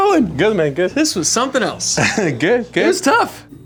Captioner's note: laughs